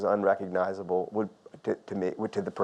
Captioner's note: none